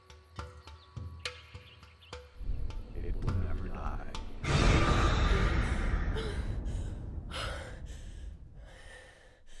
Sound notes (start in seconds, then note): 4.2 creepy music; 6.1 gasping and panting